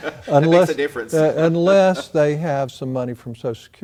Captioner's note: laugh